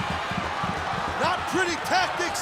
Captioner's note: audience cheering and clapping